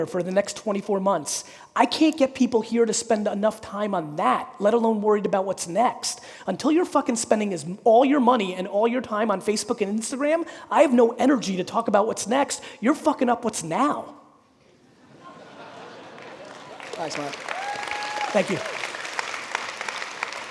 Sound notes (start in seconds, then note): 14.8 audience laughing; 16.1 audience applauding